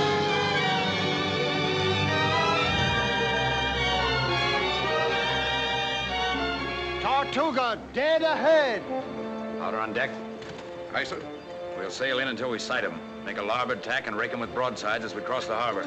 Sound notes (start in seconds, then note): none